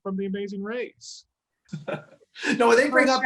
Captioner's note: laughs